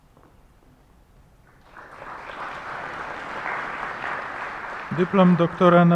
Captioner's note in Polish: oklaski